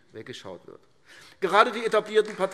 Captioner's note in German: Beifall AfD